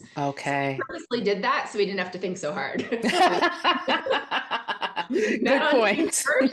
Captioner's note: both laugh